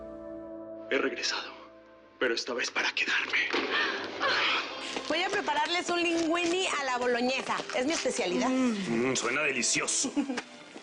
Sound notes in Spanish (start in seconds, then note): 3.8 Ríe